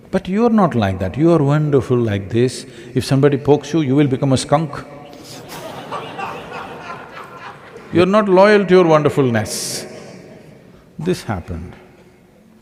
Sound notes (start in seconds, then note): 5.1 laughter